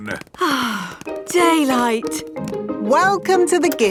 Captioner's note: sighs